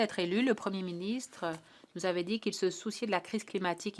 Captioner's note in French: voix de l'interprète